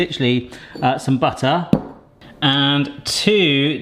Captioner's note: butter thuds